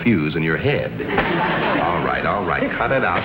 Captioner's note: audience laughs